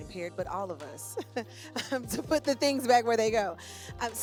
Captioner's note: laughs